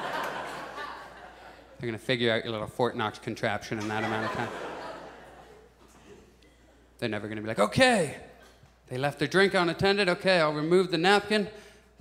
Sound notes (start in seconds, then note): 0.0 audience chuckles; 3.8 audience chuckles